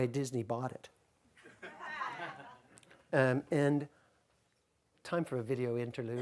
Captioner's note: audience chuckles